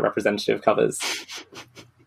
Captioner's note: laughs